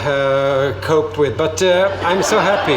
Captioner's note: audience laughs again